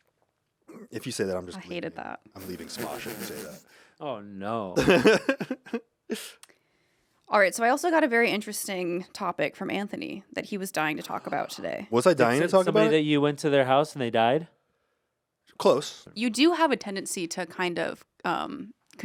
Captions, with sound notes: - If you say that, I'm just-- - I hated that. - I'm leaving Smosh if you say that. - Oh no. (laughs) - All right, so I also got a very interesting topic from Anthony, that he was dying to talk about today. - Was I dying to talk about it? - You said to somebody that you went to their house and they died? - Close. - You do have a tendency to kind of